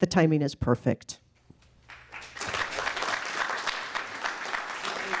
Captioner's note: applause